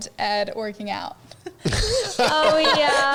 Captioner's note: all laughing